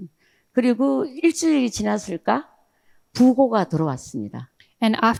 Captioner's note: speaking in foreign language